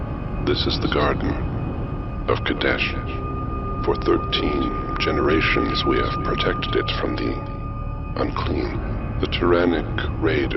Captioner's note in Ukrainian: упокореним голосом